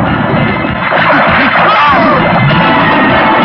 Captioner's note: yelling; tense music